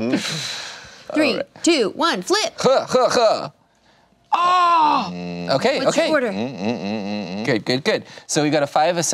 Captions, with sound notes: Three, two, one, flip. (laughing) (groans) What's your order? - Good, good, good, so we've got a five,